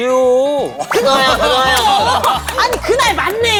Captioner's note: laughing